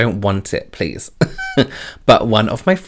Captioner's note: laughs